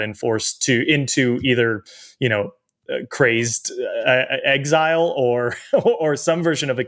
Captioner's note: chuckles